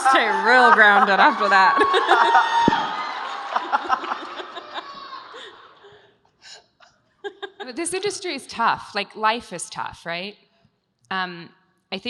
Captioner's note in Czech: Smích